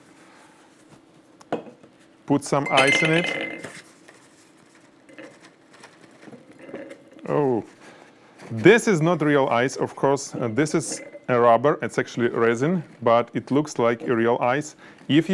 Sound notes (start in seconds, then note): 5.7 bag rustling